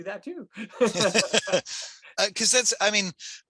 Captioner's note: laughing